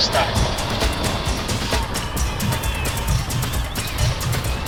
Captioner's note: audience cheering